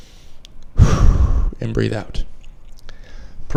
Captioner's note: exhales